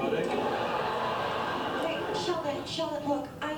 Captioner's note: audience laughter